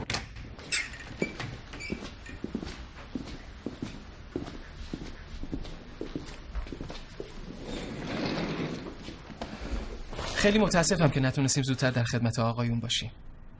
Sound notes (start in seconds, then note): 0.0 door opening; 1.0 footsteps